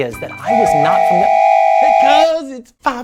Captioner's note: whistle blows